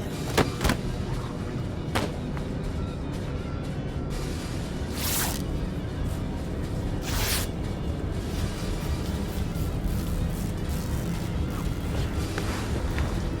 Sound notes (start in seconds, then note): 0.2 body thudding; 2.3 intense music; 5.1 tape ripping; 10.3 intense music